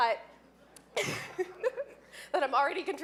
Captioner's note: laughing